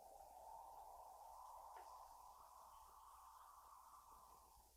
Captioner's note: wind whooshing